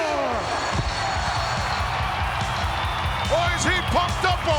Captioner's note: crowd cheering